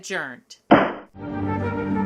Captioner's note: gavel bangs